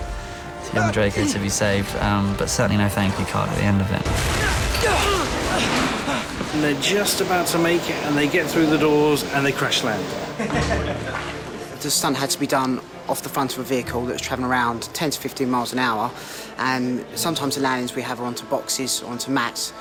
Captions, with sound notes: ...and a relief for Draco to be saved but certainly no "thank you" card at the end. [GRUNTING] They're just about to make it and they get though the doors and they crash land. [MAN CHUCKLES] Stunt had to be done off the front of a vehicle... ...that's traveling around 10 to 15 miles an hour. And sometimes the landings we have are on to boxes or to mats...